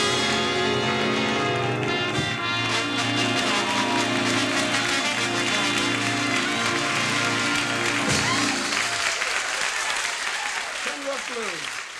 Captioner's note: applause